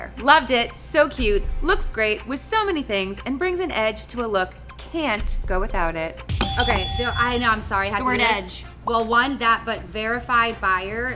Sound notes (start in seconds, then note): 6.4 buzzer rings